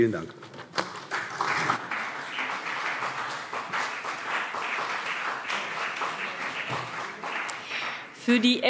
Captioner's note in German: Beifall CDU und vereinzelt BÜNDNIS 90/DIE GRÜNEN